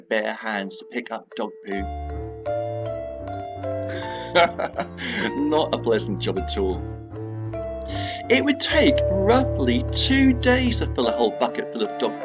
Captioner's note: surprised laugh